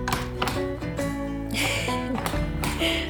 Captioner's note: laughter